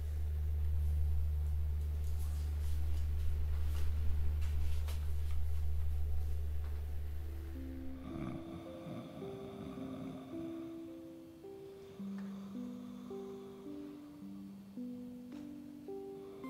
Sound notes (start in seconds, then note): 7.9 attendant snoring; 11.4 soft music